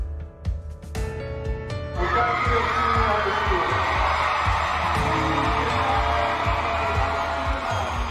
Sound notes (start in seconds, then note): 2.0 cheering